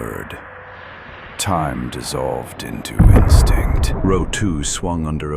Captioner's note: explosion